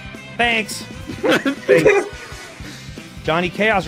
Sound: laughs

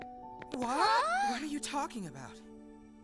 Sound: both gasp

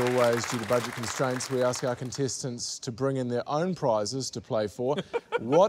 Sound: laughs

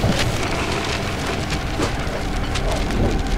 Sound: garage door opening

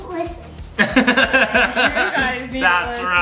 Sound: laughs

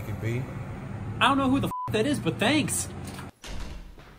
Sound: beep

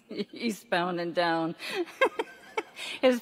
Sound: laughs

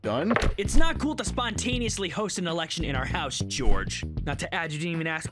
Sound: shoving sound

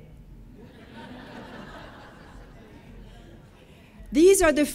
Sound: audience laughing

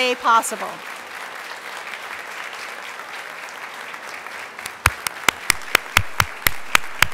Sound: applause

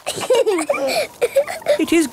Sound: both laughing

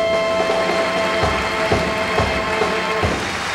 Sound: audience applauds

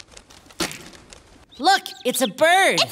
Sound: thud

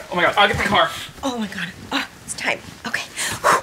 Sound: breathes out

